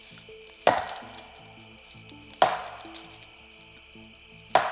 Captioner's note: wood banging